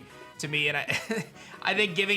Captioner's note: chuckles